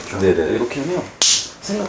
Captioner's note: snap